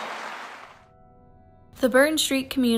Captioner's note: applause